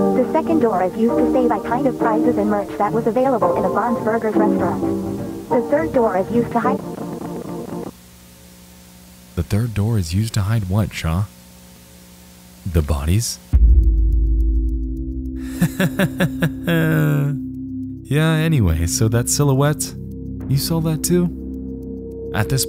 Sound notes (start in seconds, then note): 13.7 dark music; 15.4 laughs